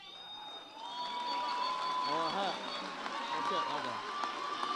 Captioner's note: audience cheers